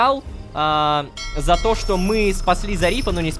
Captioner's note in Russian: Звук корабельного колокола